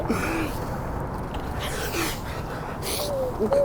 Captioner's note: crying